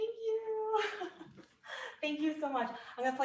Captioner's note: laughs